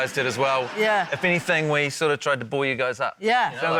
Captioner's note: laughter